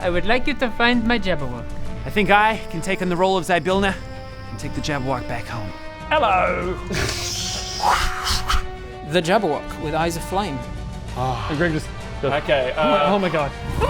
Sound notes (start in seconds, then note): 7.7 whooo-woo-whooosh